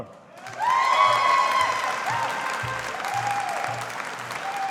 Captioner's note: audience applauding